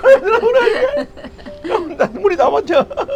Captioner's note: both laughing